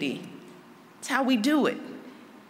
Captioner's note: none